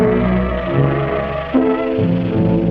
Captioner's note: ominous rattling; dramatic music